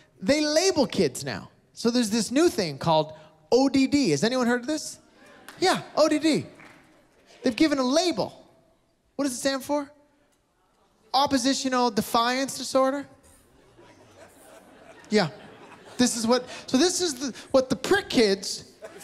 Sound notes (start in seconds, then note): 5.5 applause, cheering; 13.5 laughter; 18.7 laughter